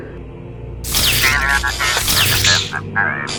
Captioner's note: Medical Droid sounds